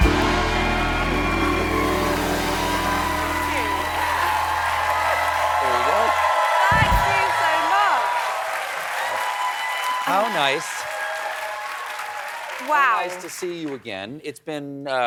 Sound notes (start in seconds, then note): 1.4 cheers and applause